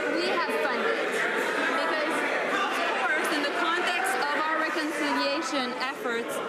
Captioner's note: some laughter